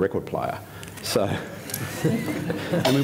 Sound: laughter

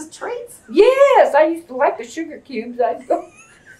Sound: laughter

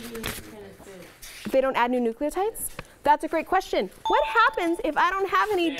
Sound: ding

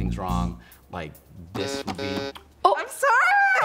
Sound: button buzzing

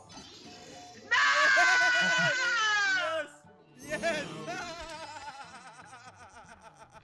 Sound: laugh

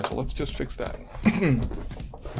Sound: ahem

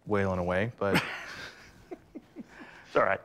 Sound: laughs

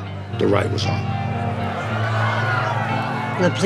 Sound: shouting intensifies

